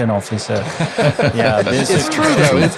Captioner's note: group laughing